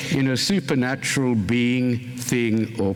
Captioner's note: none